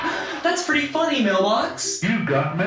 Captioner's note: laugh track